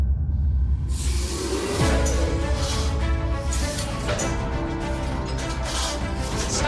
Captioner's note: dramatic music; machinery clanking